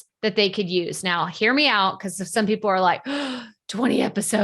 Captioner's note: gasps